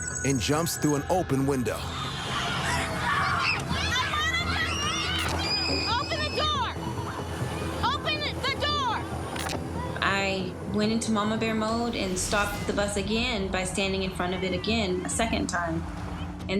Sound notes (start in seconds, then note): 1.9 children yelling